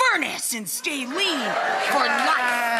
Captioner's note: crowd cheers